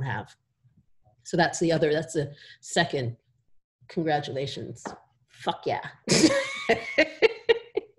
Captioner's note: laughter